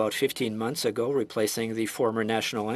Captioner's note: speaking French